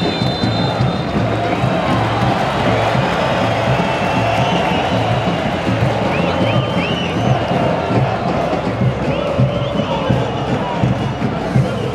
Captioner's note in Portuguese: sons da torcida